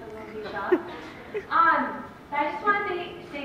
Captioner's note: laughter